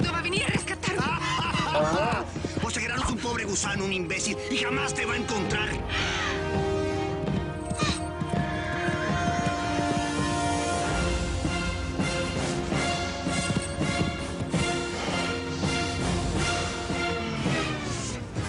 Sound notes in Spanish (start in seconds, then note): 2.9 Risotada; 9.7 Relinchos